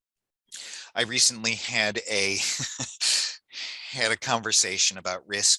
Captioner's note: laughs